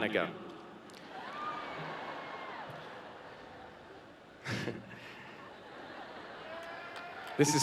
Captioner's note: cheering and Clapping